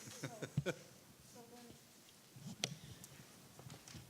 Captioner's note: laughing